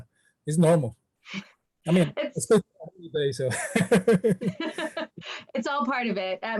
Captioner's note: laugh